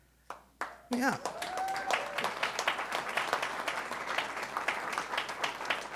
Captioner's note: audience cheering